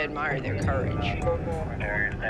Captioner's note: garbled radio transmission